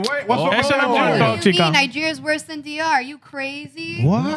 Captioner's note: speaking In Foreign Language